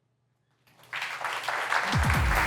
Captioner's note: applause